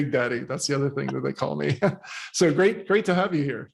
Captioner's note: chuckles